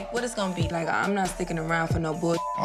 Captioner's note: beep